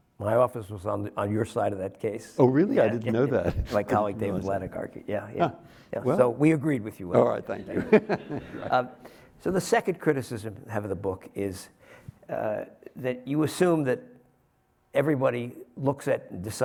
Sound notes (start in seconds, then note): 7.2 laughs